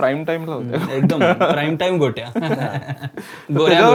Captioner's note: annoying laughter